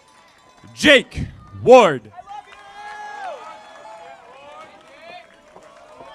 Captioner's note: audience applauding